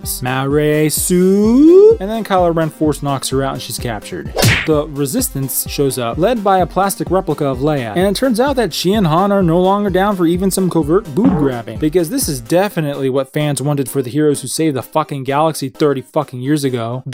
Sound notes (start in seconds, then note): 4.3 smack; 11.2 boing!